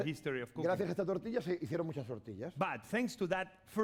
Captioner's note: speaking spanish